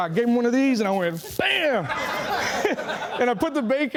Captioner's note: laughing